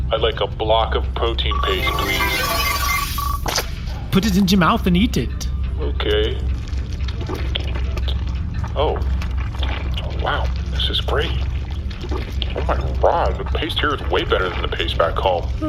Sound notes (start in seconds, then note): 1.5 replicator chimes and emits a wet block of paste; 6.8 chewing